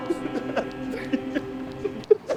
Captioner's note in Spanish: sigue llorando